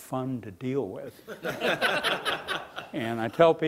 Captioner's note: laughing